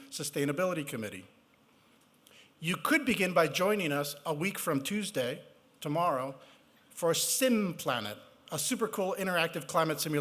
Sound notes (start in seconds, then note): none